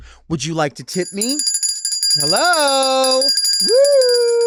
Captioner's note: bell ringing